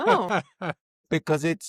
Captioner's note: laughs